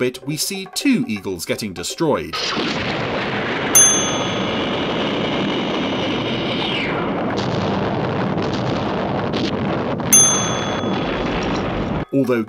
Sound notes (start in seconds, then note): 3.7 bell dings; 3.8 crashing; 7.4 loud banging; 10.1 bell dings